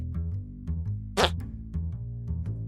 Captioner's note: fart sound